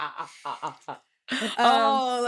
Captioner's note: laughing